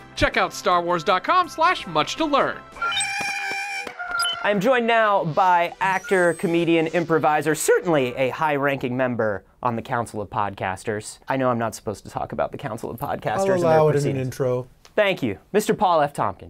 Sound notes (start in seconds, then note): 2.8 Porg sounds